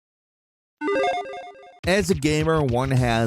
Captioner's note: logo beeps